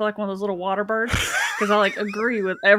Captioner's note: laughs